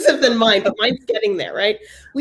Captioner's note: laugh